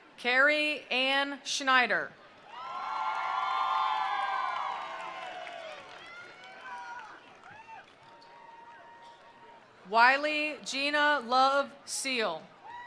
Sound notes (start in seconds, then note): 2.4 attendees cheering; 2.6 attendees applauding